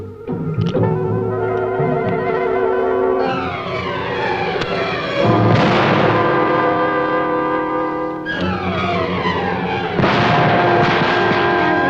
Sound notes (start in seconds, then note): 5.3 explosion; 8.6 explosion